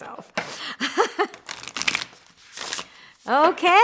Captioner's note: laughs